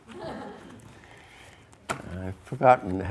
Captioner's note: students laugh